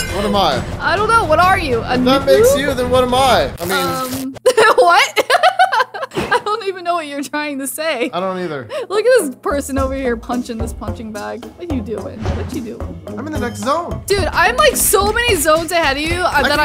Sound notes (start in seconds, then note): 4.5 laughs; 11.1 playful music